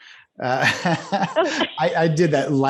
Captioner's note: laughs